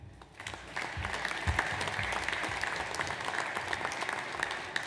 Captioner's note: audience applauds